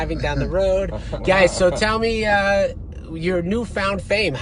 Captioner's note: laughing